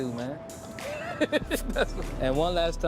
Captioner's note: laughs